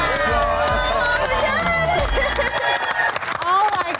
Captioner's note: cheering